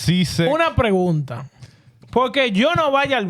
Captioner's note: speaking In Foreign Language